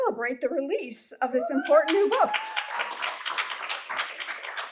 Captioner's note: applause